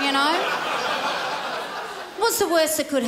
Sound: crowd laughs

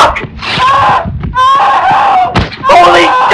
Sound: screaming for help

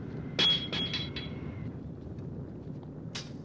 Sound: banging

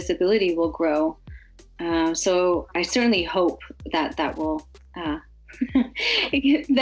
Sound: laughs

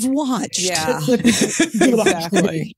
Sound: laughs

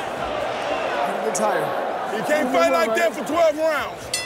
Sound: bell dings

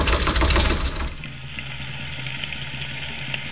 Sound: banging on door; sizzling

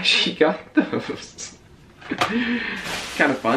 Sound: chuckles

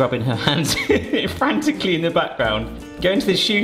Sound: laughs

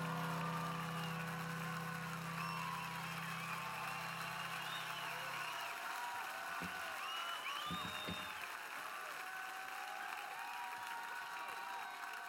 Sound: cheers and applause

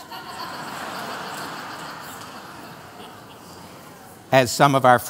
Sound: laughter

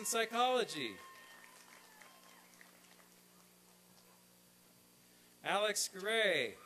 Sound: applause and cheering

